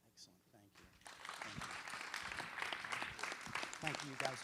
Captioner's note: applause